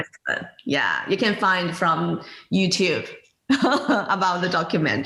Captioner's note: laughs